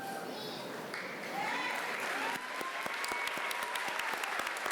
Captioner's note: applause